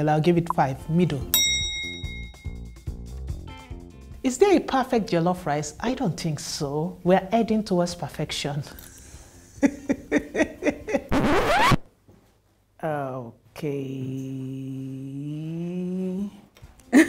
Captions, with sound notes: I'll give it five, middle. - Is there a perfect jollof rice? I don't think so. We're heading towards perfection. (laughs) (record scratching) - Okay...